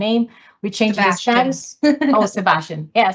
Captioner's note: laughs